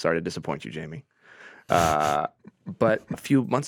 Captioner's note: chuckling